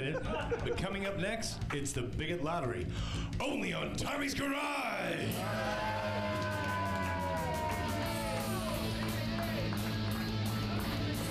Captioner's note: audience cheering; upbeat rock music